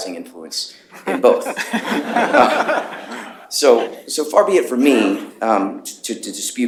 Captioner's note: laughter